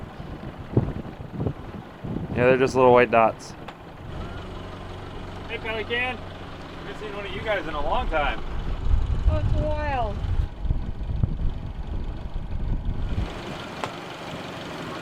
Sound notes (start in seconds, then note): 11.2 boat engine whirring